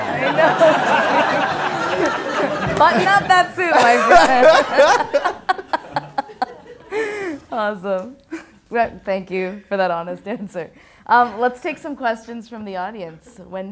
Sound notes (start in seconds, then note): 0.0 laughter